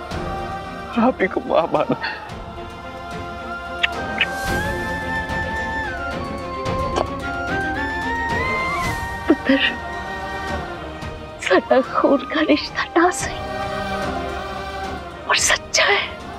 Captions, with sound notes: and I have considered you as my mother. [Kissing on hand] [Kissing on hand] Dear, even if we are not related by blood, our relationship is pure